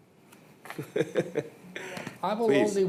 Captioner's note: laughs